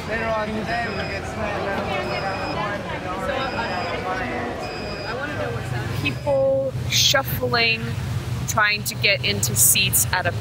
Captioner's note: machines beeping